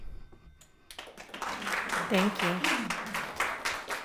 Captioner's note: audience applauding